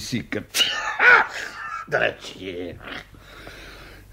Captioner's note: sneezes